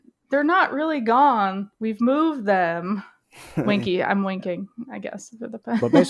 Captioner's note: laughs